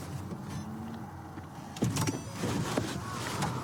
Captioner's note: car door opens